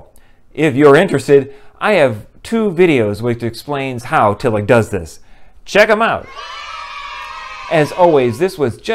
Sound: kids cheering

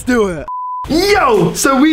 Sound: beep

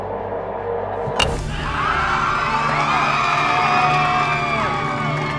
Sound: crowd cheering

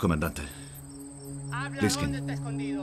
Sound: in Spanish

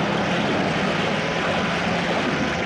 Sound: none

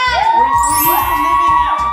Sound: children cheering

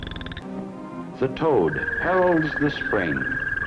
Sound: frog chirping

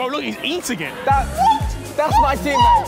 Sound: screaming

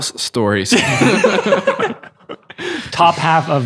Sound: laughing

